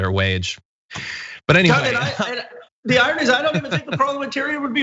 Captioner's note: laugh